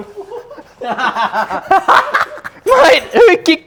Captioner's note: laughter